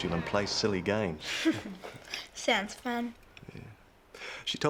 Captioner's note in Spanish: risas